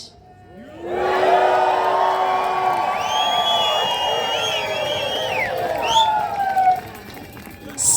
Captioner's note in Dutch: Gejuich